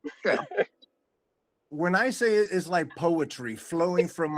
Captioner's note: laughing